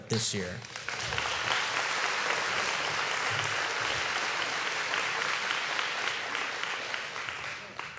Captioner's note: applause